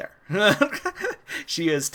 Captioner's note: laughs